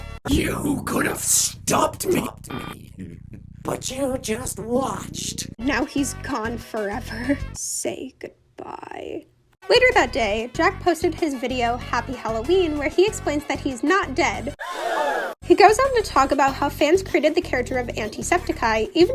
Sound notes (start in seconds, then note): 15.3 gasp